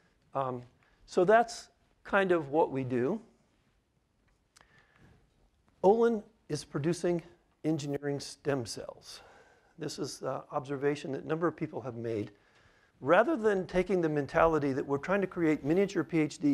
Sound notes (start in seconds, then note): none